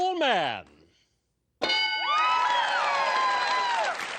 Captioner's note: bell